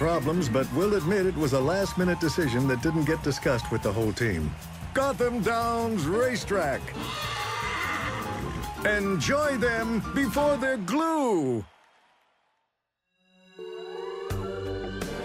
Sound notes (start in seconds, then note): 6.9 horse whinnies; 13.4 soft music